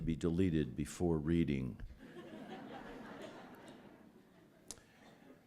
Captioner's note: laughter